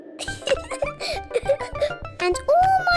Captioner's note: laughs